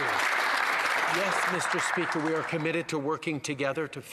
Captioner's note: some Applause